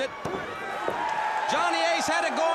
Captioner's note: crowd cheering